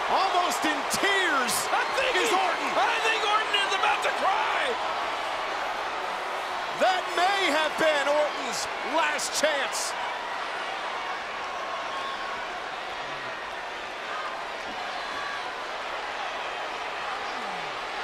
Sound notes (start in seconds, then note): 0.0 applause; 5.1 applause